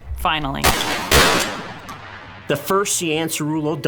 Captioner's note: gunshots